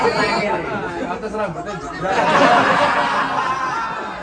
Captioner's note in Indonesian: tertawa